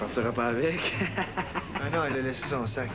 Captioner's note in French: Rire